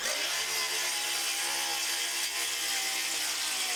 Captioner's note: saw grinding